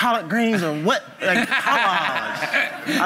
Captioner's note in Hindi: हँसी